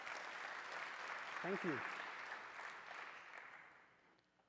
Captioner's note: applause